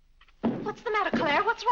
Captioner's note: foot stomping